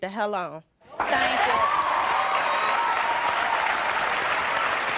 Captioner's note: audience cheering